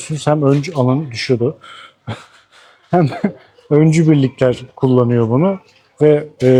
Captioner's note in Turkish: kahkaha